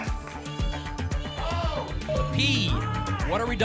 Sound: audience shouting letters

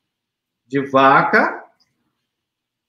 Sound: speaks portuguese

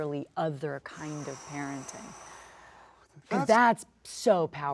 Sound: Sterling sighs

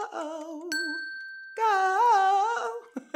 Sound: ding

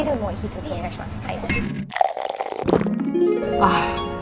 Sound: beer pouring

